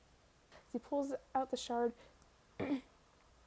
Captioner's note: ahem